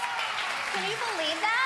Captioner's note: audience applauding